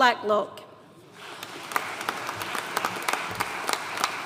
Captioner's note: audience applauding